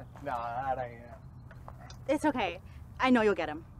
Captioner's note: laughs